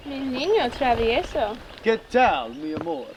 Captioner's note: Henry speaking foreign language; Angelina speaking foreign language; Henry speaking foreign language